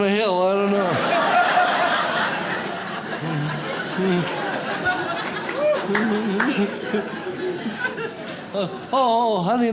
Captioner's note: audience laughs